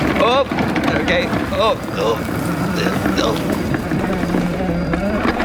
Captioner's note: engine groaning